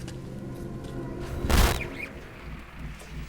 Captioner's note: static